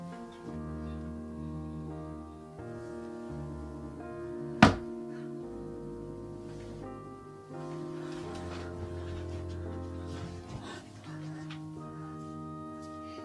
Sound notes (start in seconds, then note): 4.6 feet hitting the floor